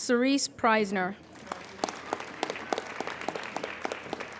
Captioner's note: applauding